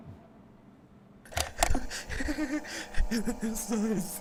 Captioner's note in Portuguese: risada trêmula